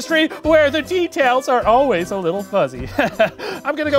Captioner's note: laughing